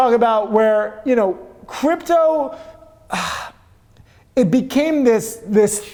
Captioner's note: exhales